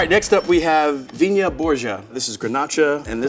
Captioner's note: bell dinging